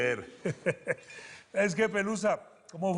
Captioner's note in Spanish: Risas